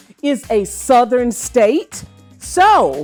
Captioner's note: none